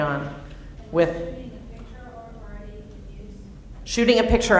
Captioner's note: female audience member speaking